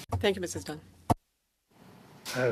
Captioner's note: speaking French